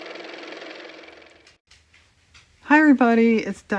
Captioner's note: car motor